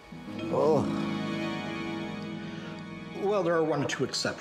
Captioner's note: Gregore grunts in disgust